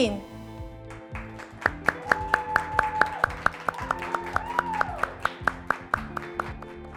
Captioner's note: graduates clapping; graduates cheering